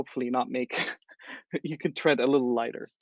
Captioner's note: laugh